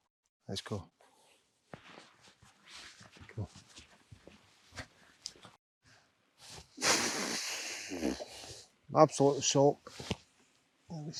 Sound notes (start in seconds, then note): 6.8 big sigh